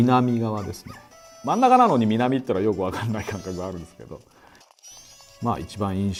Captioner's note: laughing